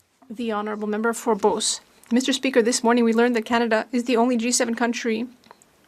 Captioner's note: speaking French